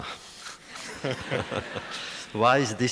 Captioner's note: laughter